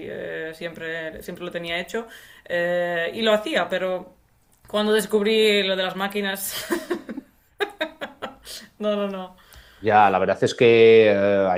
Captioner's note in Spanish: risas